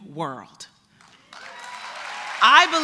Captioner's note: applause